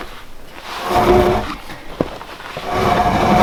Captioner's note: log sliding